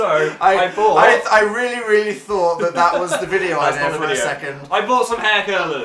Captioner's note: laughs